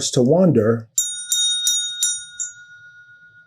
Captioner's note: bell ringing